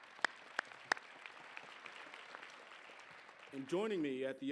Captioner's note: applause